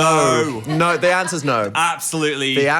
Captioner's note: producer laughing